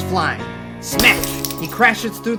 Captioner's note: glass shattering